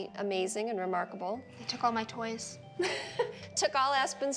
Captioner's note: chuckles